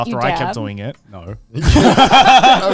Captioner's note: all laughing